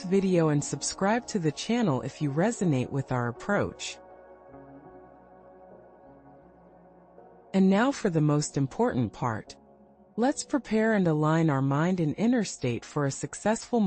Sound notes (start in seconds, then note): 6.5 pause